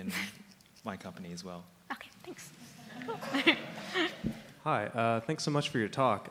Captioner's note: laughing